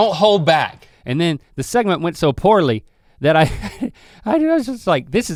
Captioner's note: chuckles